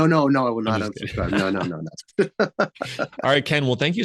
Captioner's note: laughs